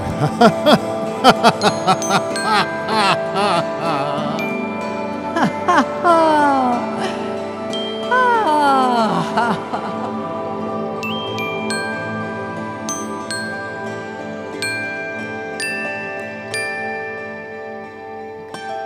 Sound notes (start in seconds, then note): 1.1 laughing; 5.7 laughing; 10.7 gentle relaxing music